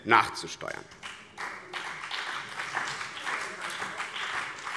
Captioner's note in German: Beifall BÜNDNIS 90/DIE GRÜNEN und vereinzelt CDU